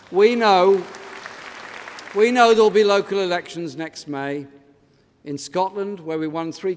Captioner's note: applause